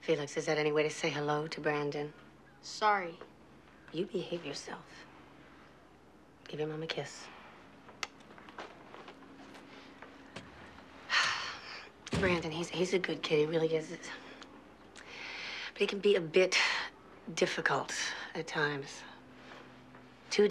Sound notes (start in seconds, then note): 11.0 sighs; 12.0 door closes